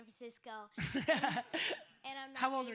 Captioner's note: Gary laughs